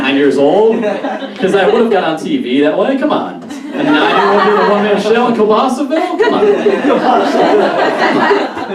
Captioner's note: audience Laughs